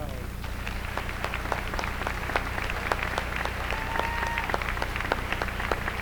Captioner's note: applause